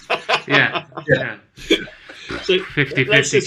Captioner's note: laughing